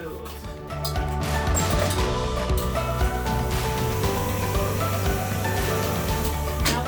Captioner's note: soft gentle music; dough mixer whirring